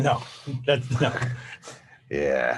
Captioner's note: laughs